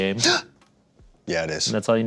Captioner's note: gasps